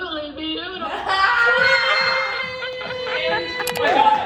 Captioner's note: laughing